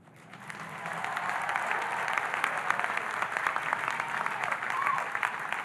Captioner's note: audience applauding and cheering